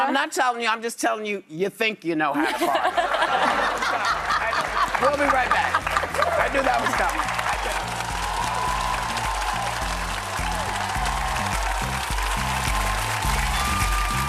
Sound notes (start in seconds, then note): 2.4 audience laughs; 8.4 audience applauds; 11.4 upbeat music